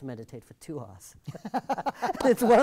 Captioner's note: both laugh